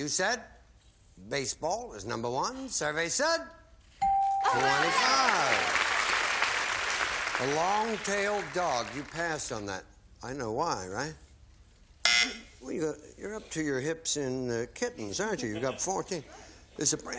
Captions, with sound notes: You said baseball, it was number one. Survey said -- 25. (applause) A long-tailed dog, you passed on that. I know why, right? (buzzer) You're up to your hips in kittens, aren't you? You've got 14.